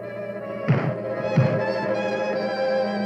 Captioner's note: thump